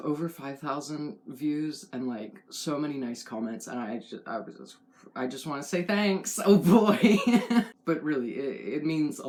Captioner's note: laugh